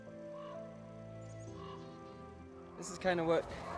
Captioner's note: crows cawing